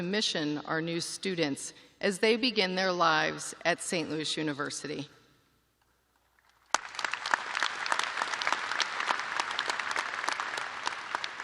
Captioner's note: applause